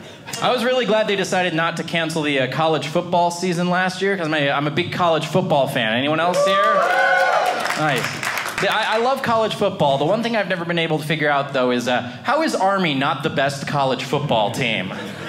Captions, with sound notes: I was really glad they decided not to cancel the college football season last year because I'm a big college football fan. Anyone else here? (audience cheering) Nice. Yeah, I love college football. The one thing I've never been able to figure out, though, is how is Army not the best college football team?